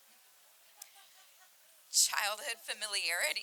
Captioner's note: audience laughing